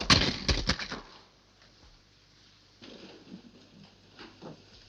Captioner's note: object banging